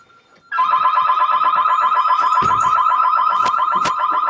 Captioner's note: alarm blaring